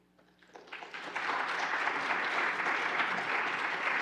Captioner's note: applauding